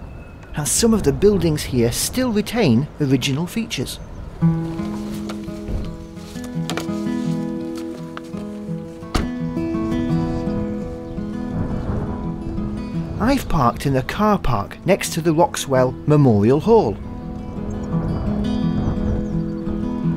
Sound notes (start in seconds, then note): 8.9 sound of car boot closing